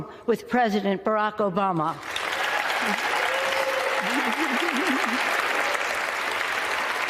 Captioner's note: applause